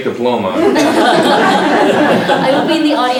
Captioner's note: laughter